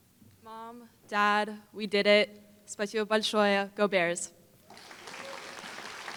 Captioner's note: foreign Language; applause